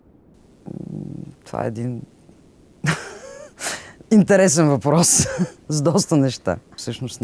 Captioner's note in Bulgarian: смее се